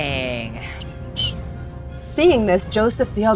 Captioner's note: whistling